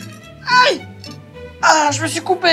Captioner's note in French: bruit de couteau